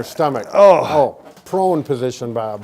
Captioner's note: groans